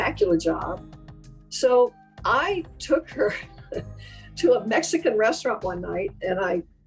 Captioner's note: laughs